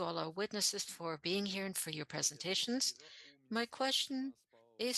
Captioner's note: speaking French